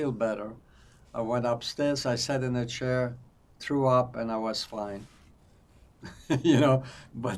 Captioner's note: laughing